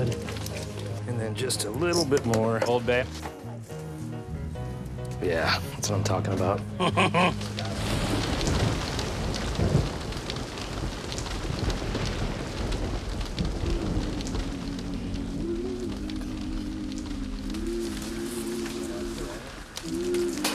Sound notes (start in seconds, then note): 6.7 laughs; 8.3 thunder rumbling